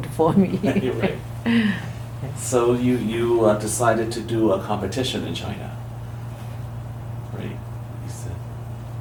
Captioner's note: laughs